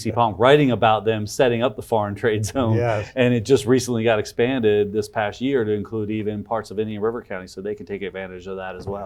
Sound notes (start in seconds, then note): 2.5 chuckles